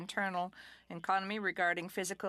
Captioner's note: speaking French